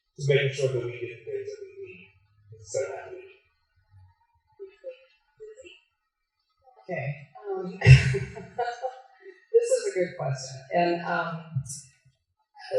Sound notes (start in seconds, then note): 7.6 laughs